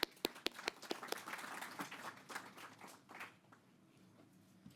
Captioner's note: people clapping